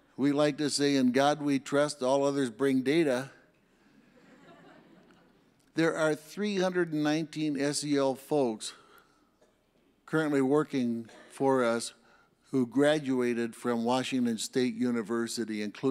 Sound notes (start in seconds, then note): 4.1 audience laughs